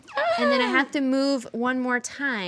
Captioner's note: gasps